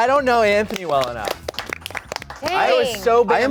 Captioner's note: everyone clapping